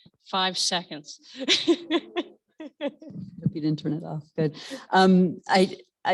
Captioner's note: laugh